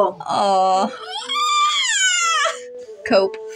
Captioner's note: sad Screech